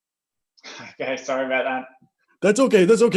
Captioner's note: laughs